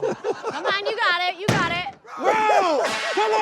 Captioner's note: ball thudding; yelling